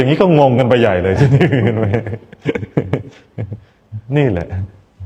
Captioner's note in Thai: เสียงหัวเราะ